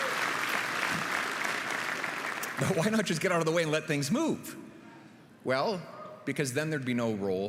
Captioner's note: applause; continued applause